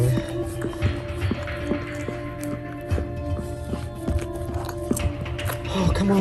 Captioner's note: sound Of Dog Licking